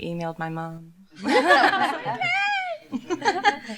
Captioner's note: laughter